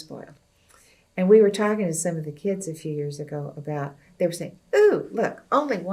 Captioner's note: electricity